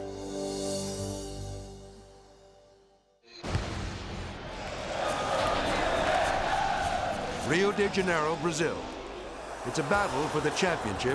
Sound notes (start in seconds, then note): 0.0 reflective music; 3.3 upbeat music; 4.3 crowd cheering